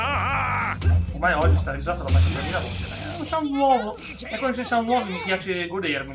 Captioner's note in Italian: urlo